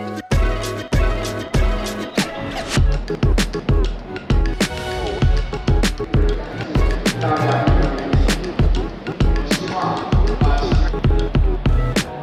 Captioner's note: crowd chattering